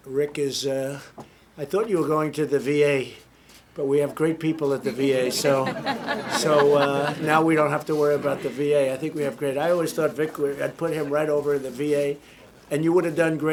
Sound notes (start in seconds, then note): 4.6 laughter